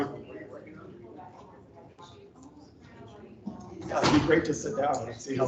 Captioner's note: attendees chatting